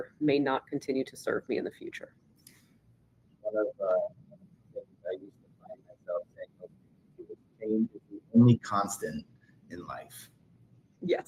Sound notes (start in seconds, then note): 3.6 audio cutting out